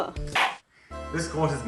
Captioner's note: gavel slam